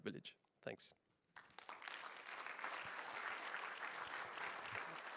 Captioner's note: applause